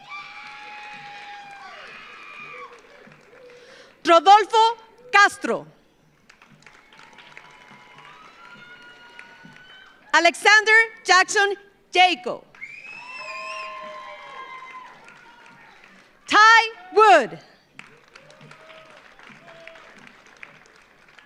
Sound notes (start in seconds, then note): 0.0 audience cheers; 0.0 audience applauds; 6.1 audience applauds; 6.4 audience cheers; 12.5 audience applauds; 12.5 audience cheers; 17.6 audience applauds